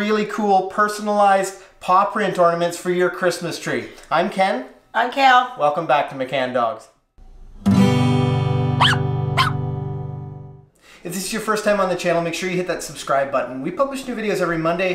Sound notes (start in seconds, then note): 7.3 guitar chord; 8.8 dog barks